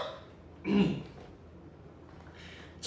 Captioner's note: clears throat